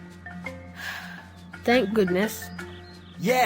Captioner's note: breath